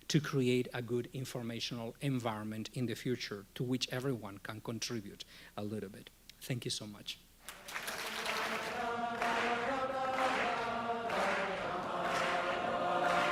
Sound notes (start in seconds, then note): 7.4 audience applauding; 9.2 cheering music